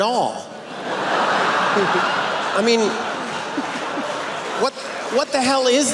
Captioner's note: laughter